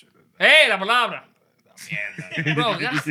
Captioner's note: non-english Speech